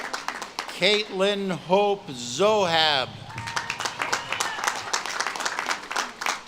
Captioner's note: audience claps and cheers